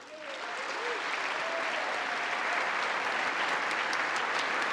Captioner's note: congress applauding